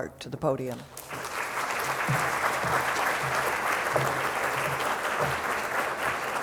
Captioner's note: applause